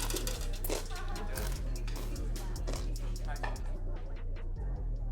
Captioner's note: people chattering